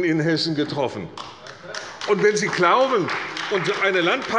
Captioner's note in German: Beifall bei Abgeordneten der CDU